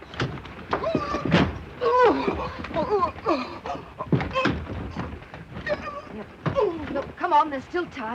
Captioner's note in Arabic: صرخات مكتومة